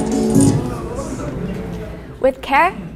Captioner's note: murmurs